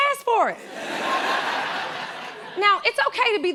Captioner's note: laughter